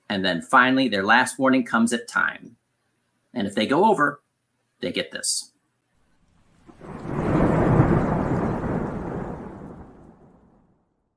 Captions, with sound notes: And then finally, their last warning comes at time. And if they go over, they get this. (thunder booming)